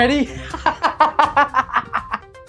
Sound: laughing

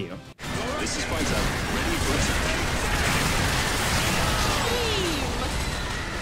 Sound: explosions rumbling

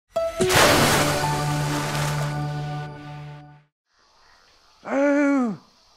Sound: splash

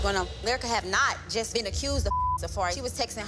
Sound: beep

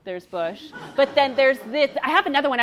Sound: audience laughing

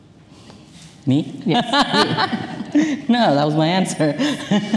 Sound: laughs

